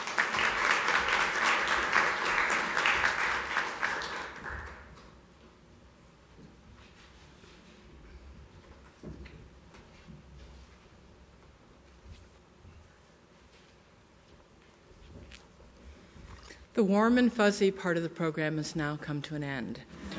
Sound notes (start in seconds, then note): 3.3 applause